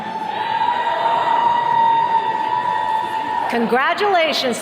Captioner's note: attendees cheering